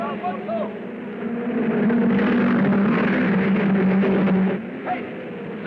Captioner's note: cars revving